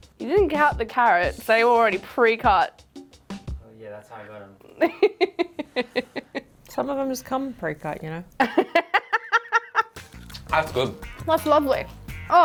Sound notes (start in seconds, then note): 4.7 laughing; 8.4 laughing